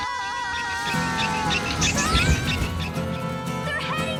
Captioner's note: Lizbeth shouts